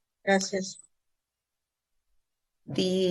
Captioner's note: speaking Spanish